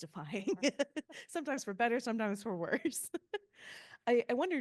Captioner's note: laughing